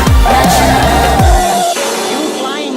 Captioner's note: bang!